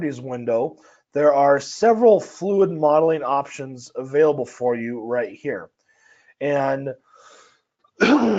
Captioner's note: cough